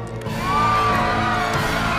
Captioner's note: screaming